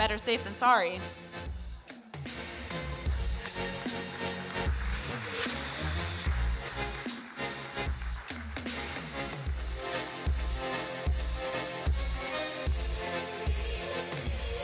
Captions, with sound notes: Better safe than sorry. (electronic dance music) (audience applauding) (electronic dance music)